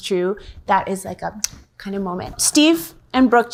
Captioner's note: kisses